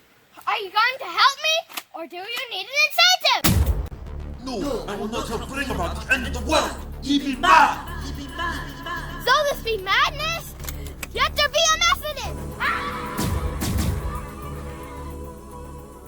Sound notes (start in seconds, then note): 3.4 zap; 12.6 screams, pew zap